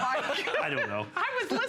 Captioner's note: laughter